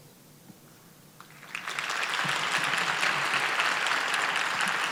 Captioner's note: audience applauding